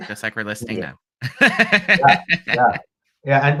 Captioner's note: laughs